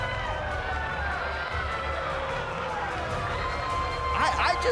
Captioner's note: crowd cheering